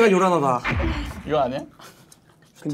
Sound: creak

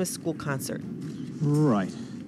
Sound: soundbite of film, "love, actually"

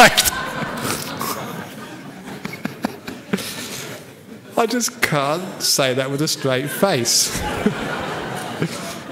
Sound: laughter; laughter

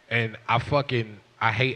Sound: none

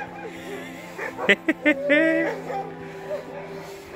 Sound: laughter

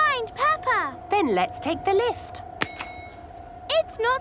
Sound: lift pings

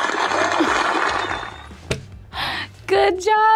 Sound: mic whirring

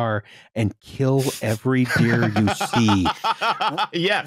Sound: laughter

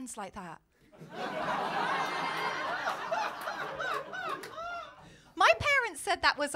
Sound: laughter

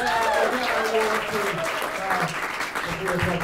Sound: applause

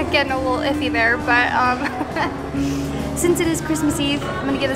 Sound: laughs

